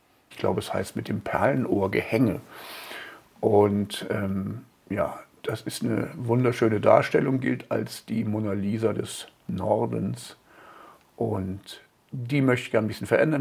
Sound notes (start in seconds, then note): none